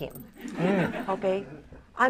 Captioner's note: laughter